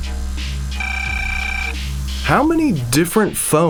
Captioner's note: ringing